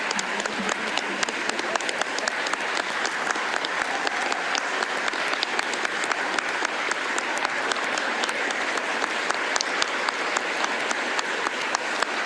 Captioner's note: applause